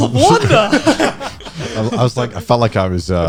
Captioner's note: guys laughing